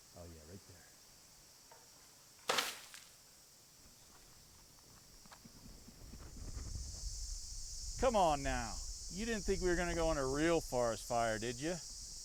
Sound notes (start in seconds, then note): 2.6 water splashes loudly; 8.0 cicadas buzzing